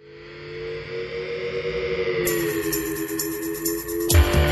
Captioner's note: engine revving; pulsing music